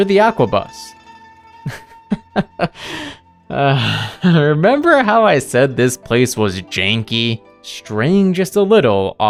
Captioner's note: laughs